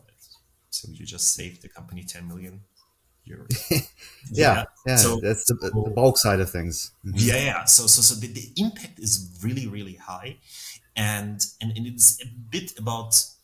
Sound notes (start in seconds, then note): 3.5 laughing